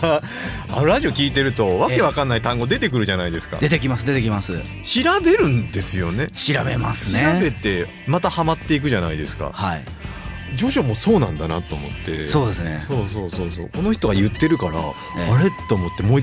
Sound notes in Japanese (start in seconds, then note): 0.0 笑い; 6.1 咳払い